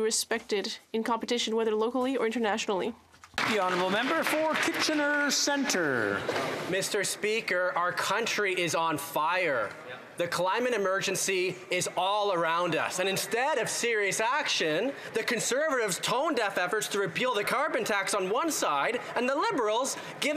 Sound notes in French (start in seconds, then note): 9.0 voix de l'interprète